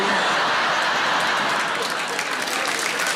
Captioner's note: audience laughing; audience clapping